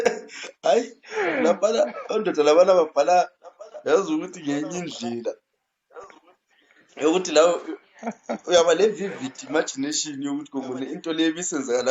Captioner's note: laughs